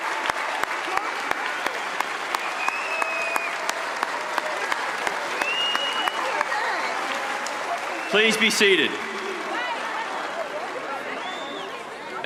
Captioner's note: cheers and applause